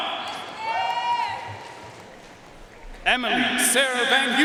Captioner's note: audience cheering and applauding